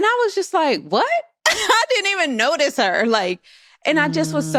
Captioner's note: laughs